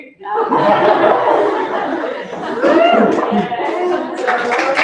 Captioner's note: laughter